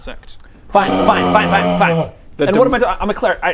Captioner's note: unhappy noises